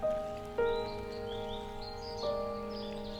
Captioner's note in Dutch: vogels tjilpen